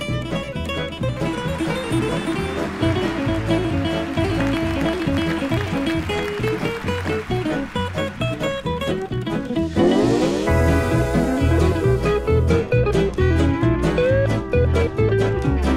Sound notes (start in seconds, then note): 2.2 audience applauding